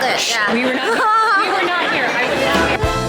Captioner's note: laughing; exciting music